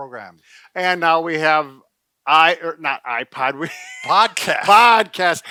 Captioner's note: chuckles